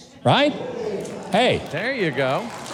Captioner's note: audience applauding